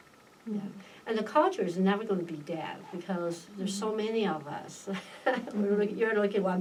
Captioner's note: laughs